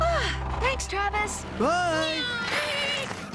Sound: sigh!

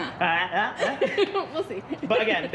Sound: speaking in gibberish; laughs

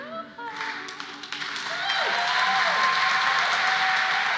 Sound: applause

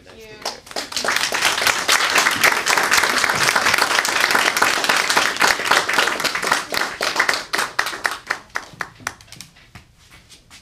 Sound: applause

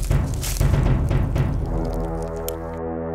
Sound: flesh chewing sounds

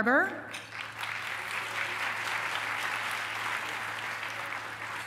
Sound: applause

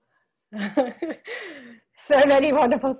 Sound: laughs

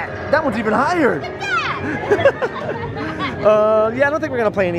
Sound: both laughing

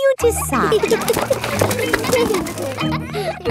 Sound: kids giggling

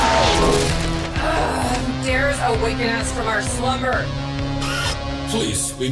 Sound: synth music intensifies; Azalla yelling; groaning

